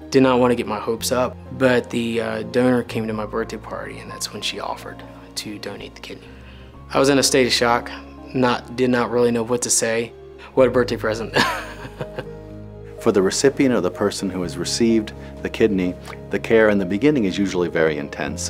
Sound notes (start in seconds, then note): 11.3 laughs